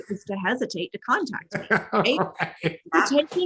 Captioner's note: laughing